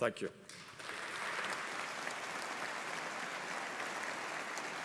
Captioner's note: audience applauding